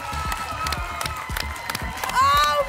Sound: applause and cheering cont

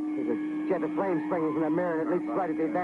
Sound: screaming

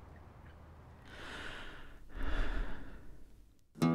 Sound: deep breath

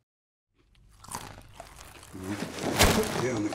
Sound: chewing

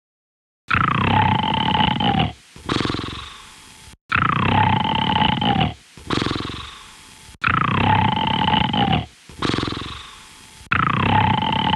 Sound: snoring

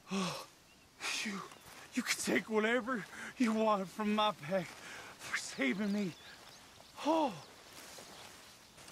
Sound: sighs

